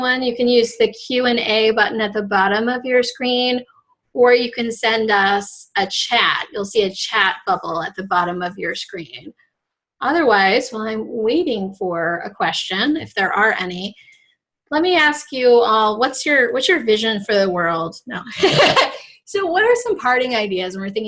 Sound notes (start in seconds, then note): 18.3 laughs